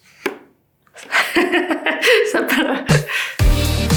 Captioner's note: soft clapper close; laughs